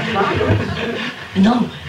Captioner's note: laughter